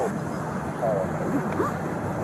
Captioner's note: radio chatter